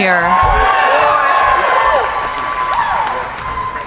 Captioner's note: cheering